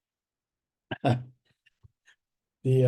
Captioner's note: laughs